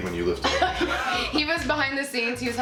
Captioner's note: laughing